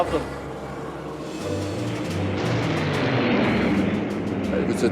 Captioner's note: plane engine roaring